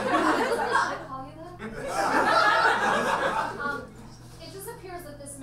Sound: audience laughs

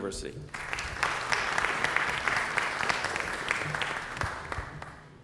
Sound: applause

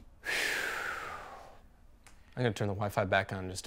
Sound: Nicole's dad sighs

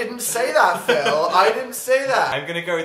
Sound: laughs

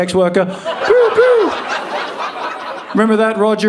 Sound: audience laughing

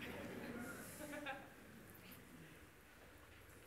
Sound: laughter

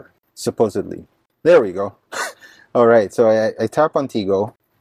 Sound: laughs

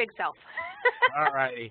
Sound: chuckle

